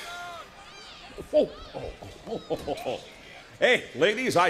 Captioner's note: crowd chatter